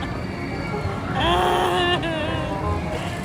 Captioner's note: cries out loud